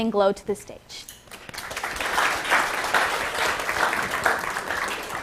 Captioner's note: applause